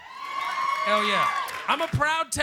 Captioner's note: applause